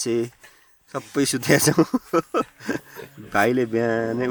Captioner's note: laughter